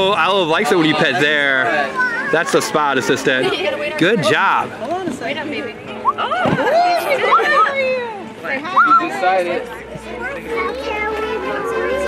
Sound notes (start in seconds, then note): 8.3 kids mumbling in background